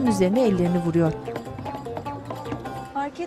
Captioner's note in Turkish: Masaya vurma sesi